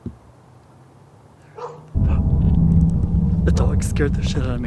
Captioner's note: dog barks